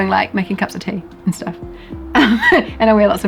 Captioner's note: laughs